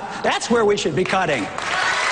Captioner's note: cheers, applause